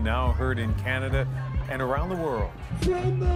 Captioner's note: chanting